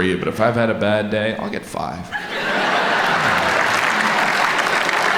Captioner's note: audience laughs